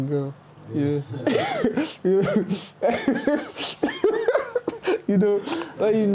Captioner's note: laughs out loud